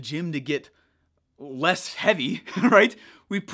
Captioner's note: chuckling